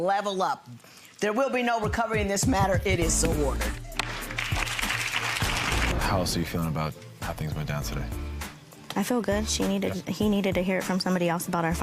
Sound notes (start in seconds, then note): 3.1 audience claps; 4.6 gavel cracks